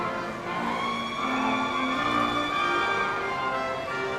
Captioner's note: audience cheering